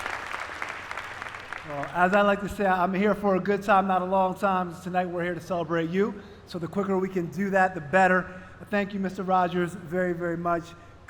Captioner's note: applause